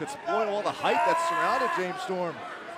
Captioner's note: crowd chatter